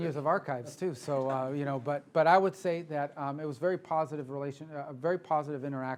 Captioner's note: laughter